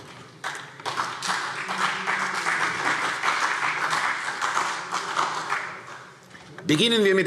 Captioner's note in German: Beifall CDU und BÜNDNIS 90/DIE GRÜNEN